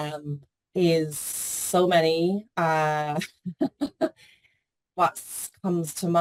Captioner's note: chuckles